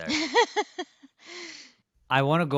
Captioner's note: laughs